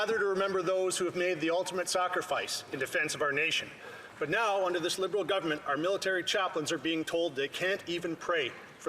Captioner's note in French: voix de l'interprète